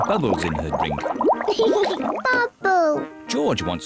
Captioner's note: laughs